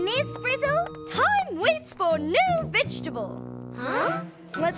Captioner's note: imitates ms. frizzle